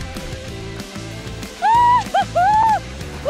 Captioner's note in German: fröhliches Juchzen